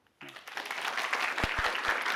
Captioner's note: applause